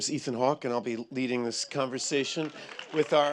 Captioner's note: applause